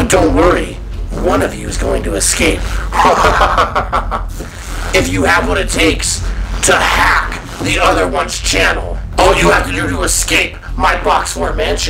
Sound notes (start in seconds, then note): 2.9 evil laughter